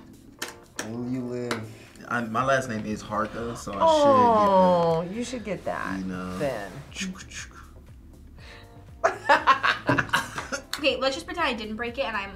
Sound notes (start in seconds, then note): 7.1 imitates heartbeat; 7.1 laughs